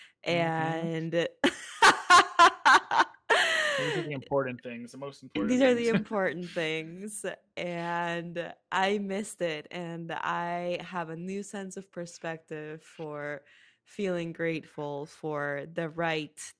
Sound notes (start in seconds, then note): 1.4 laughs